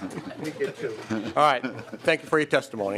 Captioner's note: laughing